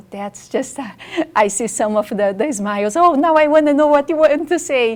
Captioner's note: laughs